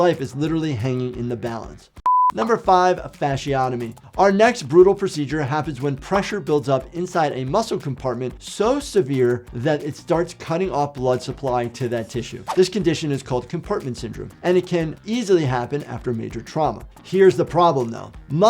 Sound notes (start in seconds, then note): 2.0 beep